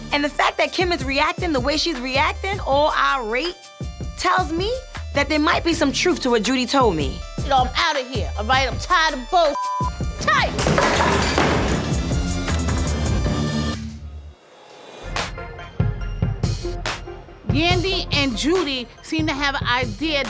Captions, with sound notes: and the fact that Kim is reacting the way she's reacting, all irate, tells me that there might be some truth to what Judy told me. - You know I'm outta here, alright? I'm tired of bull (beep). I'm tired! (table clattering) (serious hip hop music) Yandy and Judy seem to have an idea